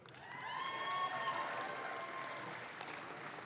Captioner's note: audience claps